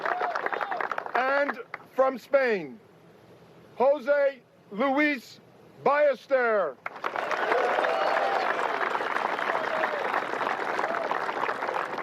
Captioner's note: applause